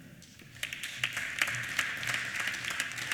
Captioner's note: applause